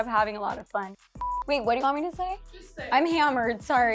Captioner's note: beep